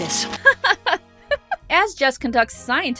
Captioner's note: Roses laughs